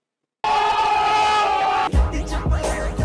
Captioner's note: people shouting; muffled music playing